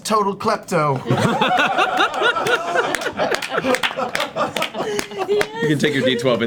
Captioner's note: all laugh